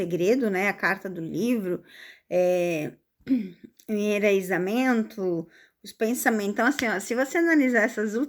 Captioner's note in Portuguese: limpando a garganta